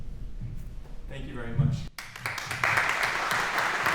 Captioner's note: applause